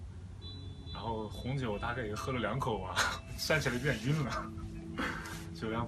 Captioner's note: laughs